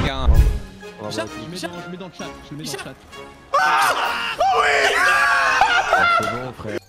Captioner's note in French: Rires